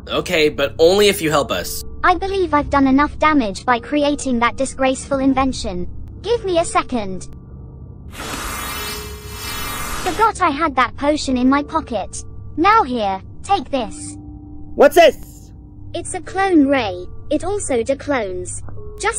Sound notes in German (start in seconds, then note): none